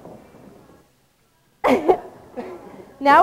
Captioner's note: laughing